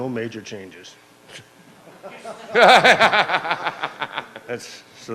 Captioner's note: laughing